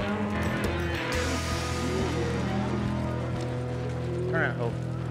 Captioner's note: cattle moo